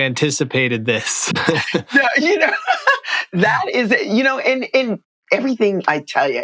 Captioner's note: laughter